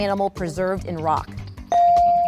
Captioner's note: bell dings